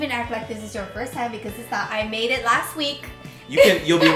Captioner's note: laughs